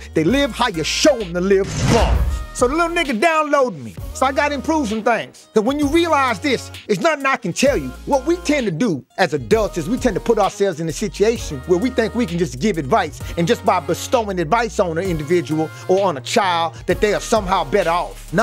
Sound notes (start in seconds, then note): 2.1 bars slamming